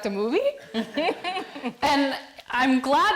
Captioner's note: audience laughing